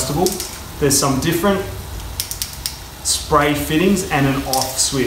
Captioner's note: shower head clicking